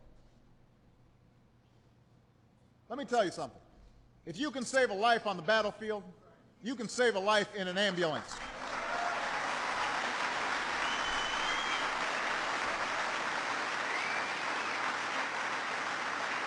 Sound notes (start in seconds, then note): 8.2 applause